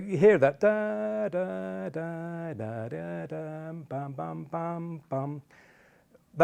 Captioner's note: vocalising the tune